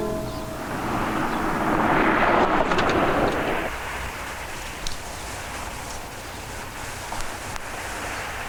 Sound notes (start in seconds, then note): 0.7 car engine revving